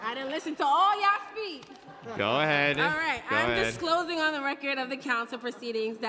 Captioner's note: laughter